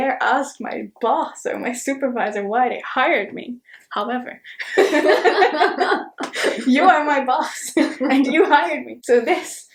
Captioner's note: both laugh